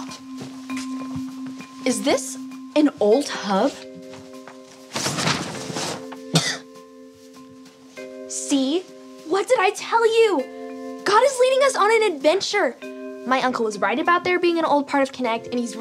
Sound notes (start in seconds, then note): 6.2 Dot coughing